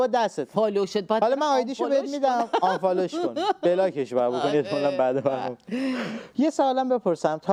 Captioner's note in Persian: خنده